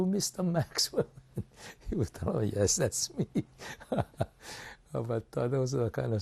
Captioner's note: laughs